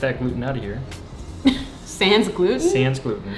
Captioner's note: laughs